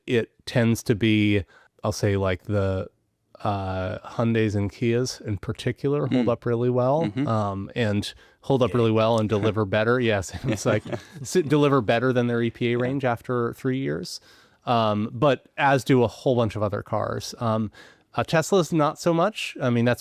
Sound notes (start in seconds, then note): 10.3 chuckling